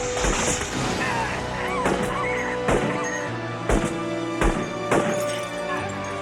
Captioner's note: dramatic music; gunshot blasts